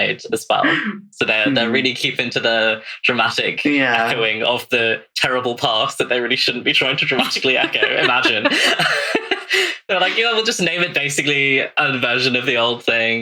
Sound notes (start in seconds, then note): 0.0 laughing; 11.0 laughs; 12.5 laughs